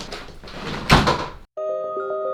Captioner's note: door slamming closed